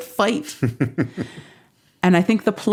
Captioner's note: laughing